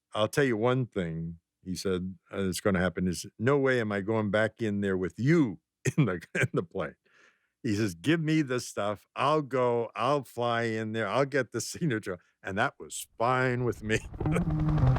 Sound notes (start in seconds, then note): 5.9 laughs; 13.8 laughs